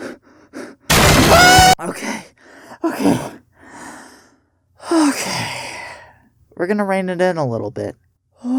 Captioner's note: inhales